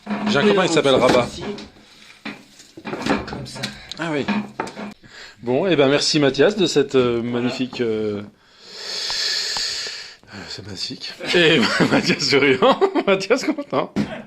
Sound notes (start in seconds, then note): 8.4 takes a deep breath; 11.2 laughs